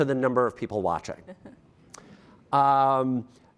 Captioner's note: laughter